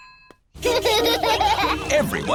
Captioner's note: children laughing